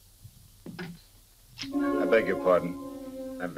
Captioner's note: lighter clicks